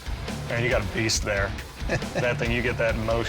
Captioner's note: chuckles